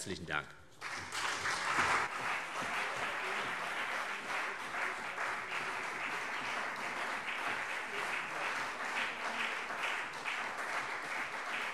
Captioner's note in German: Beifall